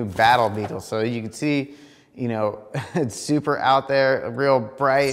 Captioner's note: chuckles